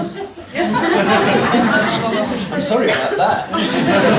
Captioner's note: audience laughs